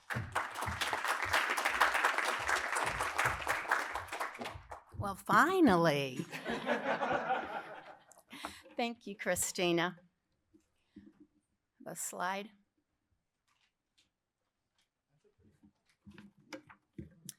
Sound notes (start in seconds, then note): 0.0 applause; 6.1 laughter